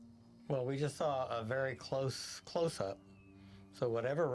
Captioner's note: view screen whistles